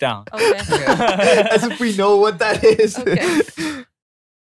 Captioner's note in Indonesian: tertawa